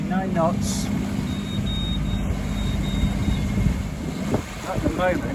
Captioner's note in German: Piepgeräusch